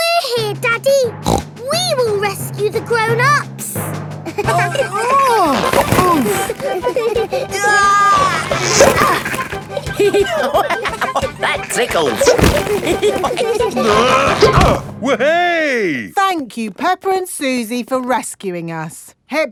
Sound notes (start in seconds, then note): 1.2 snorts; 4.6 giggling; 4.6 grunting; 7.5 giggling; 10.2 laughing; 12.9 all giggling; 13.8 grunting